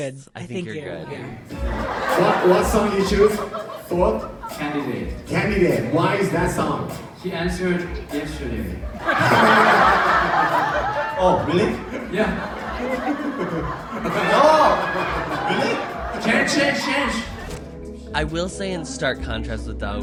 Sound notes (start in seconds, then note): 9.1 crowd laughs; 14.0 laughter